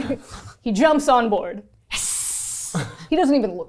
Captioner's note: hissing